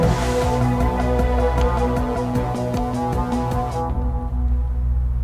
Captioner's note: engine revving; buttons clicking